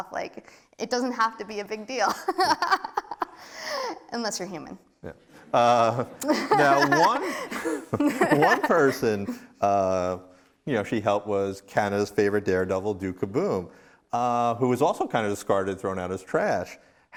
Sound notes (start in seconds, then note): 2.1 laugh; 5.4 laughs; 6.2 laughing